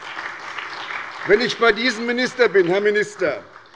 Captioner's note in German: Beifall bei der SPD